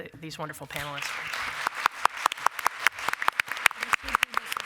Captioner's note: applause